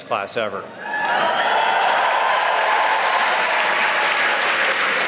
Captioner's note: cheering